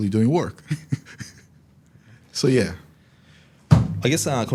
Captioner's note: chuckles